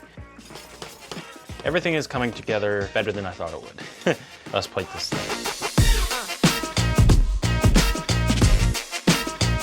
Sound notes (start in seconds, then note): 0.3 upbeat music; 3.8 laughs; 6.1 upbeat music